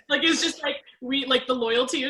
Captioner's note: laughs